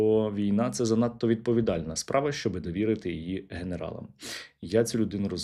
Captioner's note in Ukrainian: сопіння